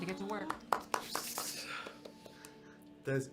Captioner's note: clapping